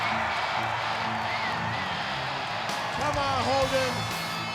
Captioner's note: theme playing; crowd cheering